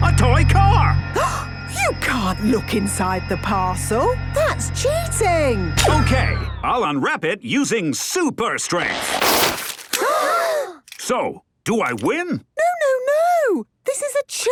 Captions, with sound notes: a toy car! (gasps) - You can't look inside the parcel! That's cheating! - Okay! I'll unwrap it using Super Strength! (all gasp) So, do I win? - No, no, no!